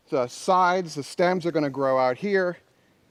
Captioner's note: none